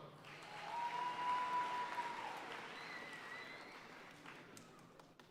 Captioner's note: audience cheering and applauding